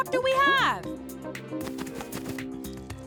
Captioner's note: tap, tap, tap